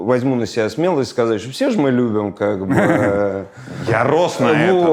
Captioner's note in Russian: усмехается